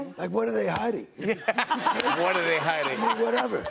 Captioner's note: laughter